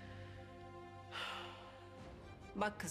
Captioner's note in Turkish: Nefes sesi